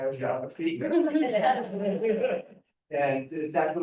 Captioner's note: laughter